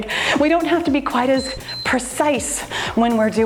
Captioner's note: timer beeps